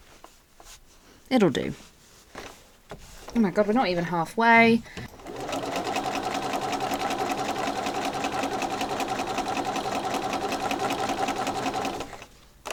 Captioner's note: sewing continues